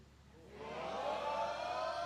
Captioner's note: applause